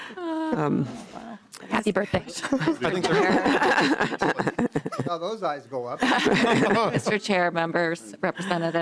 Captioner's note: laughing